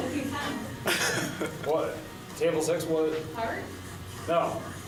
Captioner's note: laughs